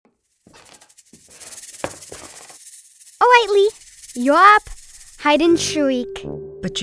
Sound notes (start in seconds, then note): 0.1 snake rattling